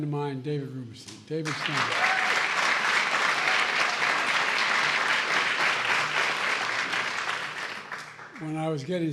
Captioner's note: applause